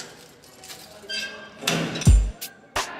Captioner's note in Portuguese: som de grade abrindo